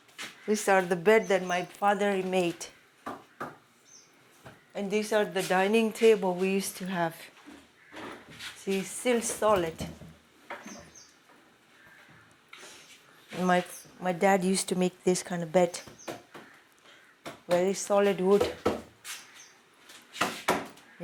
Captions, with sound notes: These are the bed that my father made. And these are the dining table we used to have. See, still solid. And my dad used to make this kind of bed. (hand tapping) Very solid wood. (hand tapping)